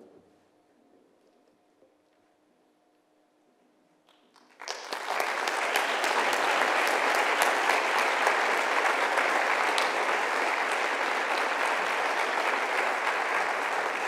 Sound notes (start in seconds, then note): 4.1 applause